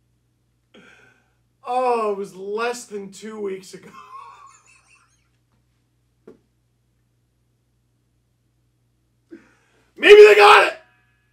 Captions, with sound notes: Oh it was less than two weeks ago! *Laughter* - maybe they got it!